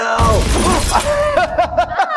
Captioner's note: laughter